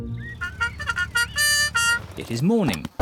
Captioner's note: both giggle; car horn